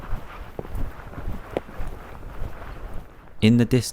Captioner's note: wind blowing